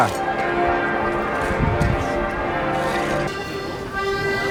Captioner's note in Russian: звон колоколов